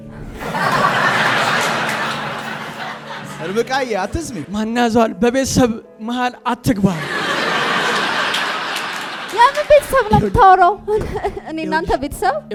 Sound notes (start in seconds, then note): 0.2 laughter; 6.9 laughter